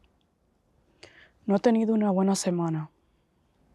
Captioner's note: Spanish